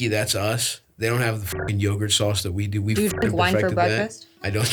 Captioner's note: beeps